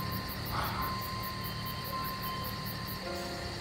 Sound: exhales

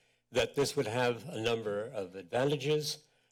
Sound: none

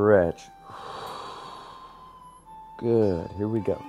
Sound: exhaling

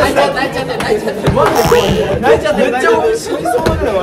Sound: locked in a laughing fit

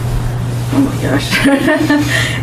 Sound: laughs

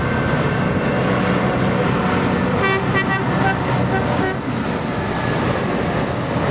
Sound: happy Train Horn sounds

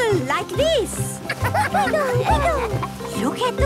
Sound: laughter

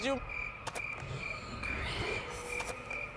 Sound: insects chirping

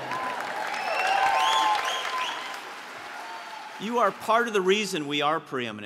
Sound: applause

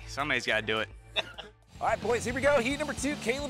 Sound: laughs

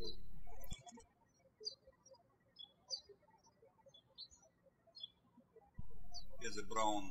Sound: birds chirping

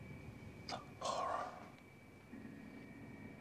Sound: whispering

